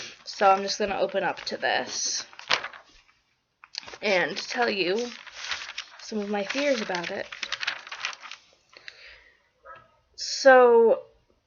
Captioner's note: pages flutter; pages fluttering